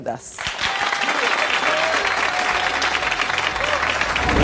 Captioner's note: audience applause